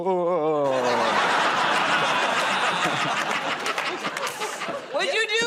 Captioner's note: laughter